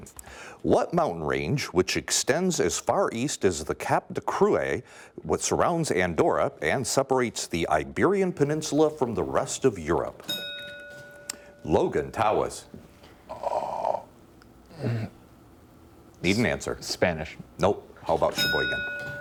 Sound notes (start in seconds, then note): 10.2 bell dinging